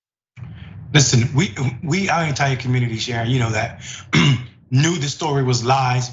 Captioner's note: cough